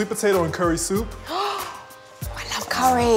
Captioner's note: gasping